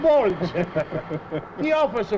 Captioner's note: both chuckle